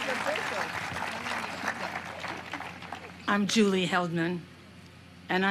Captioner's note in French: applause